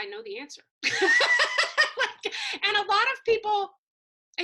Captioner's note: laugh